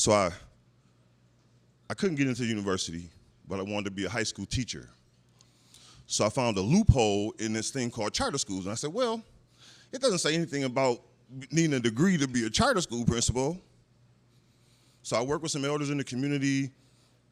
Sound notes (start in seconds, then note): none